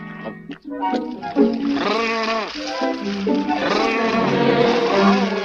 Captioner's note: water splashes